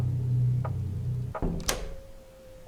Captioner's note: door clicks